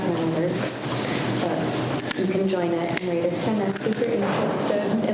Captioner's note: faintly speaking